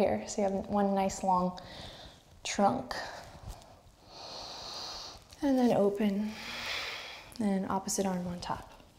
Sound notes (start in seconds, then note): 4.0 inhale